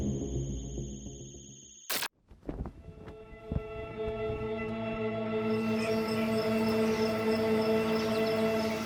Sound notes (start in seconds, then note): 2.2 flag flapping; 2.7 tense music